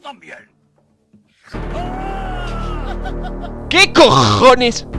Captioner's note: screams of pure pain and evil laughing